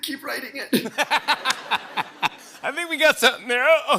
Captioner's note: laughter